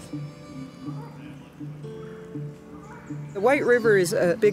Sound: birds calling in background

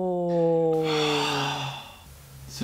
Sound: breaths out

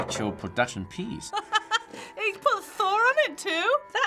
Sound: laughs

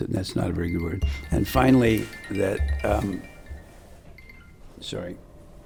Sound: phone chimes

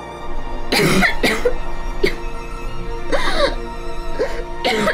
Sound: heavy coughing, wheezing

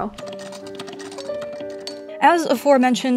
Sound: antique sewing machine click-clackity ASMR

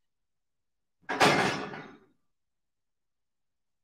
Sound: clattering

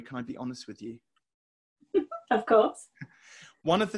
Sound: laughing

